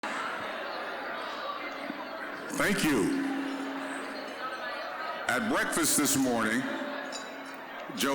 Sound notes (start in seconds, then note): 0.0 general chatter